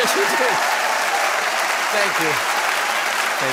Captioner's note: people applauding